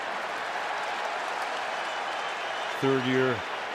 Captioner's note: cheering